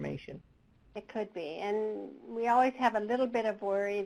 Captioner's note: voiceover